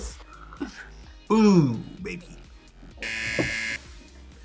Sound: buzzer

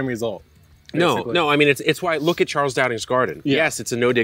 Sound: none

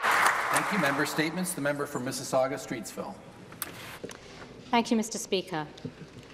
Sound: some Applause

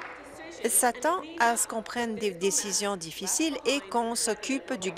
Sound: applause

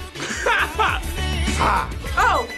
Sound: laughs

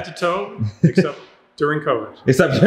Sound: laughing

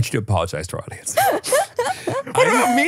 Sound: laughs

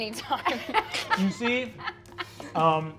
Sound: laughing

